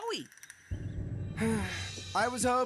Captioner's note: Chris sighing